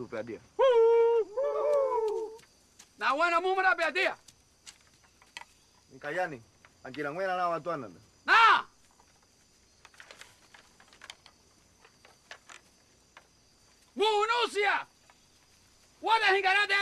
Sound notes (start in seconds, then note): 0.6 natives hooting; 8.2 shouts